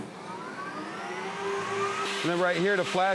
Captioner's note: machine whirring